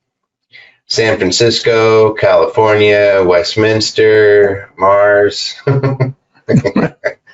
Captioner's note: laughs